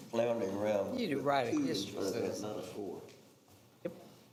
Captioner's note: continues quietly